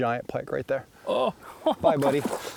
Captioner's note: laughing